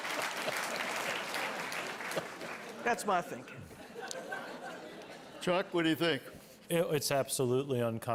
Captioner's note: applause